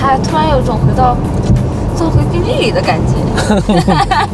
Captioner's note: ha ha ha ha